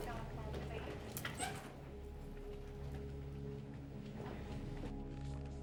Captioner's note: announcer On PA; door squeaks open